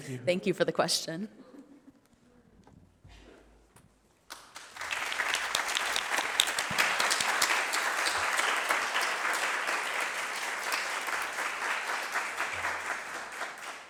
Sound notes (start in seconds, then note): 3.9 applause